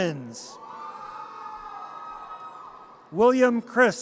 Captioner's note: audience cheers